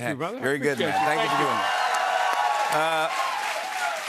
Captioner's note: cheers and applause